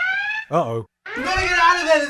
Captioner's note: klaxon